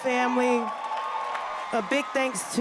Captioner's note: cheers and applause